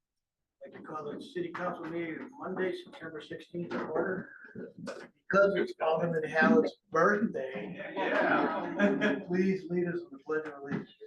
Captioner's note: cheerful chatter